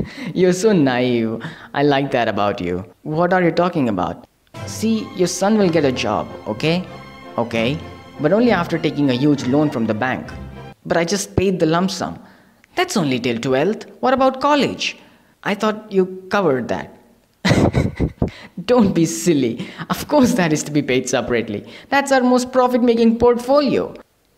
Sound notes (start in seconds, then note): 17.4 laughs